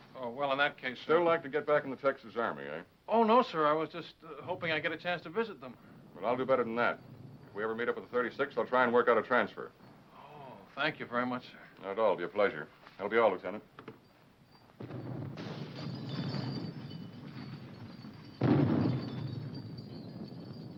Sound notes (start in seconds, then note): 16.2 chandelier clanking